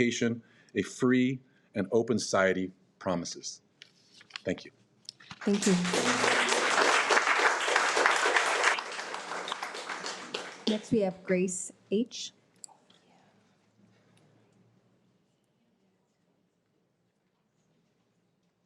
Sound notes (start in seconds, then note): 5.4 audience applauding